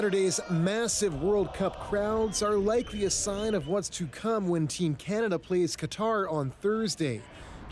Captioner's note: cheering